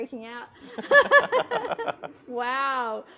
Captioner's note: group laughs